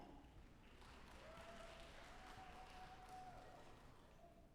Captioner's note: audience applauding